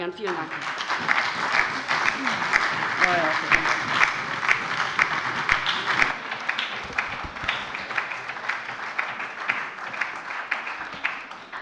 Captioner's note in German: Beifall bei der LINKEN und der SPD